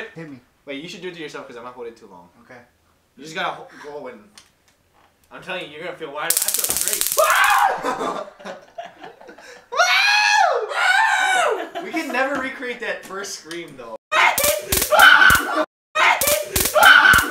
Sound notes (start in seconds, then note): 6.3 zappy sounds; 9.7 they try to mimic the scream